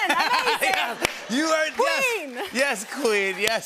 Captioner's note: laughter and applause